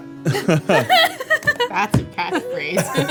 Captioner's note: laughing